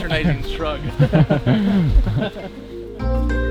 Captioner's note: all laugh